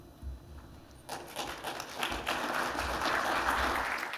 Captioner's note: applause